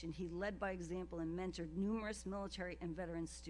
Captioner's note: none